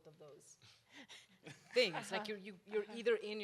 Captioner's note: panel members laugh